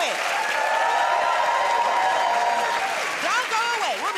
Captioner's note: cheers and applause